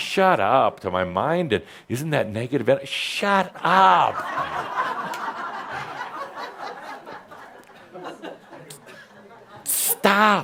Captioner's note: laughter